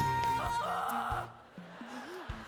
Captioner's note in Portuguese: Lauren yells comically; audience laughing